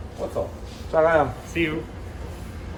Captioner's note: speaking in foreign language